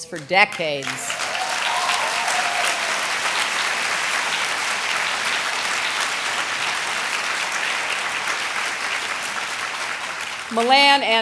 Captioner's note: applause